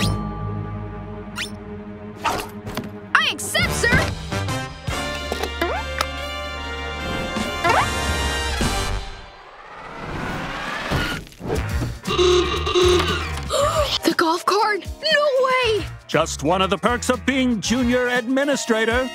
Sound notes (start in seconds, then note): 12.0 horn blowing